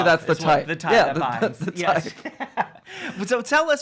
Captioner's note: laughing